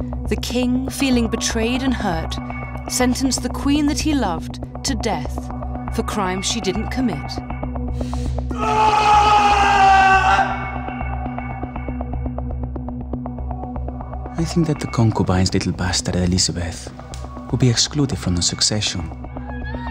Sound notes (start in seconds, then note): 8.5 Henry screams